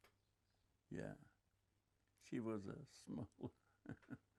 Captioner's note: laughing